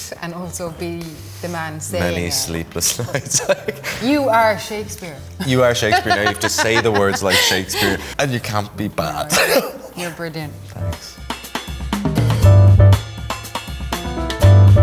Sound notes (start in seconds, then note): 2.9 laughs; 12.2 jazz music